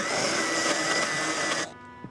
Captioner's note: whirring